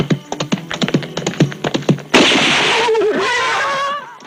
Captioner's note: shot fired